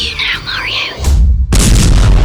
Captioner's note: punch